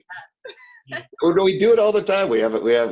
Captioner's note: laughing